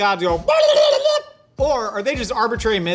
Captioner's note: turkey Gobbles